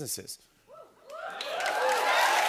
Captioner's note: cheers and applause